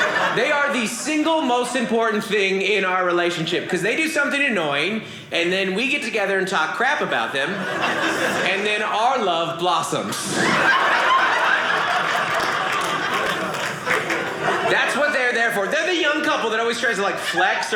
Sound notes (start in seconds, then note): 10.2 audience laughing